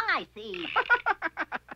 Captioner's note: laughing